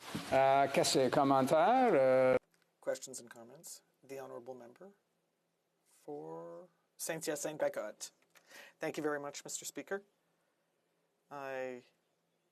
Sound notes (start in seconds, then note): 7.1 speaking French